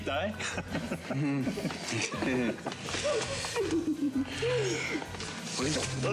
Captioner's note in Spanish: risas